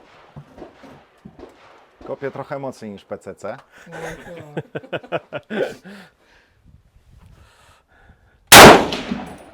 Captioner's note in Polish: śmiech